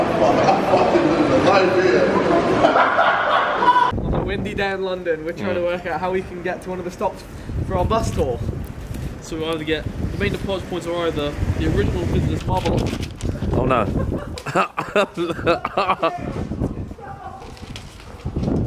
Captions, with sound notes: - I'm fucking living the life here. (laughing) - Windy down London. We'll try to work out how we can get to one of the stops for our bus stop. So we wanted to get, the main departure points are the original business model. (wind blowing) (paper fluttering) - Oh no. (laughing)